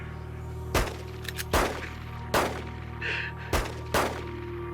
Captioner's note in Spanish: Disparos